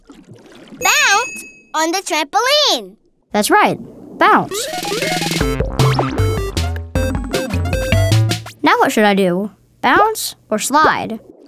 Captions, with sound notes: Bounce on the trampoline! That's right, bounce. [videogame sounds] Now what should I do? Bounds or slide?